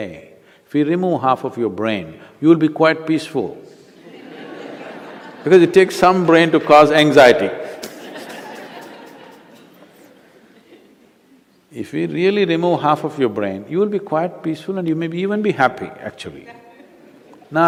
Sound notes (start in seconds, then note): 3.9 laughter; 10.4 laughter; 16.5 few Laugh